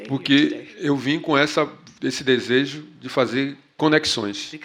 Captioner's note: speaking portuguese